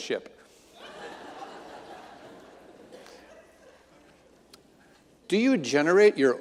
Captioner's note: audience laughing